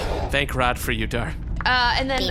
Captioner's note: sighs